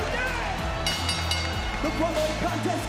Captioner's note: bell rings